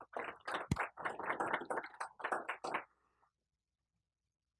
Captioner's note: applause